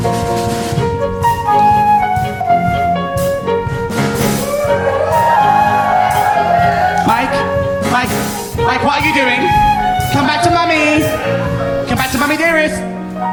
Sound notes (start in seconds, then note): 4.4 audience cheers